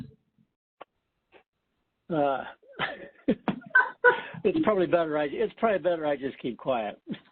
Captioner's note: laughter